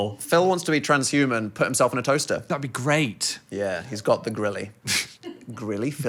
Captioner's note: none